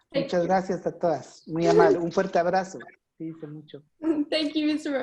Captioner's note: speaking foreign language